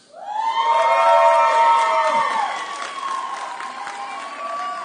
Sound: audience cheering

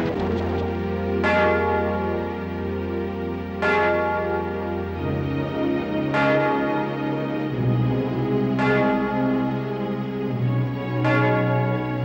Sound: clock strikes

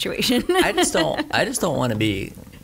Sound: laughing

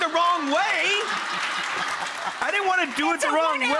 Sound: audience laughing

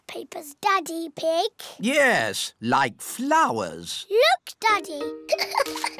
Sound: giggles

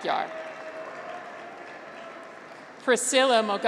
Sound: graduates cheer

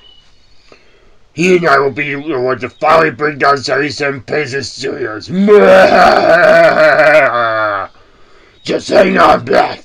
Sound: evil laugh

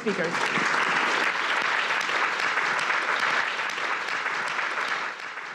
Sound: host and audience applauding

